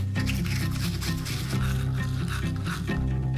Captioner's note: tooth brushing